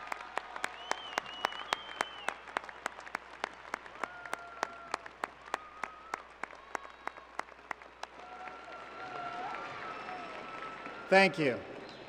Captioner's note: applause